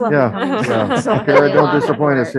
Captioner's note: board members chuckling